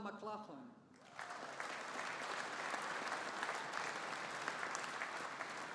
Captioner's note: audience applauding